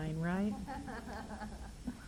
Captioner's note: laughter